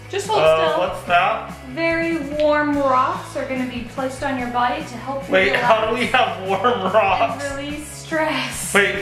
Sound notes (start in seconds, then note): 5.6 laughing